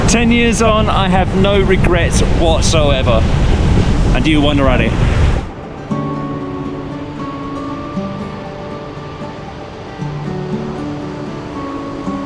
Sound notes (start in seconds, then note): 5.0 water laps; 5.4 gentle music